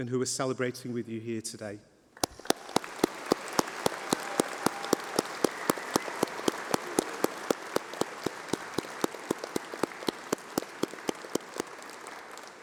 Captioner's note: applause